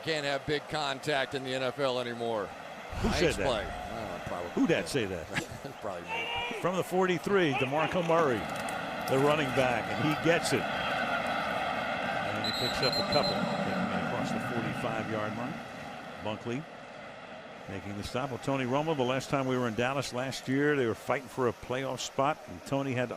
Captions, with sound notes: Who says you can't have big contact in the NFL anymore? Who said that? Nice play. I don't know. Probably me. Who that say that? [chuckles] Probably me. From the 43. DeMarco Murray, the running back, and he gets it. And he picks up a couple, taking across the 45-yard line. Bunkley making the stop. Tony Romo, the last time we were in Dallas last year, they were fighting for a playoff spot.